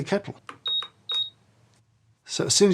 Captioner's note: kettle beeping